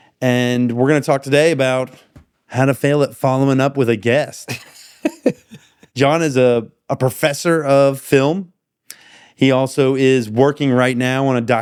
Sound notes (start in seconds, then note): 4.4 laughing